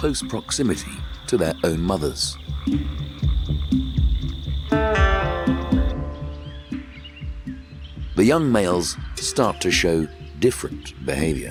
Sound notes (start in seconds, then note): 2.8 dramatic music; 6.2 birds chirping